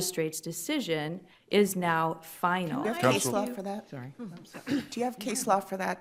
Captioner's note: multiple people respond